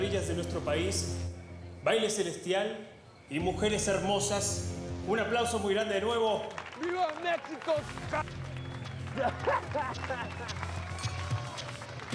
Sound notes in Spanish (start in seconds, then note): 6.0 aplausos; 9.0 risas; 9.2 aplausos